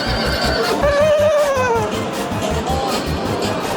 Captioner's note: neighing